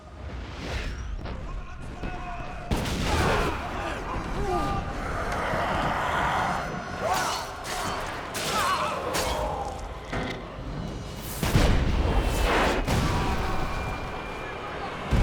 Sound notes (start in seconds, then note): 0.9 cannons banging and crew shouting; 5.0 pirates growling